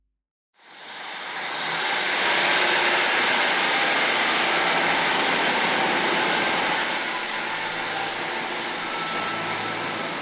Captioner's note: train departing